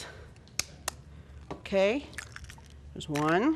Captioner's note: eggs cracking